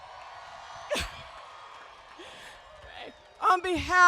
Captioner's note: cheering